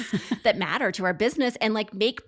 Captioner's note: laughs